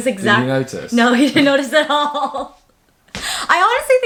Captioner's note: laughing